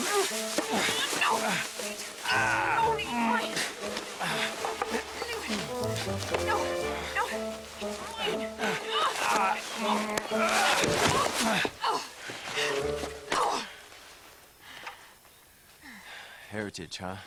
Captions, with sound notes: (playful music) The gold is mine! (grunting) No, no, it's mine! (grunting) - Heritage, huh?